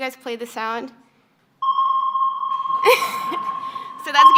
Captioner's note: beep